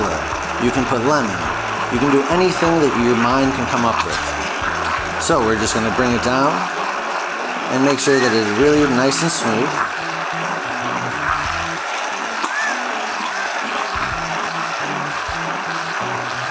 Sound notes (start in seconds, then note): 10.7 immersion blender whooshing